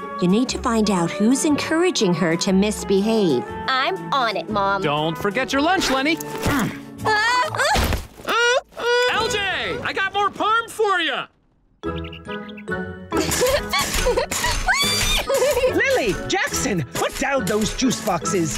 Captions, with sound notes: You need to find out who's encouraging her to misbehave. I'm on it, Mom. Don't forget your lunch, Leni. [groaning] LJ, I've got more Parm for ya! [laughing] Whee. Lily, Jackson, put down those juice boxes.